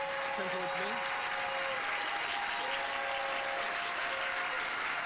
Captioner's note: audience applauding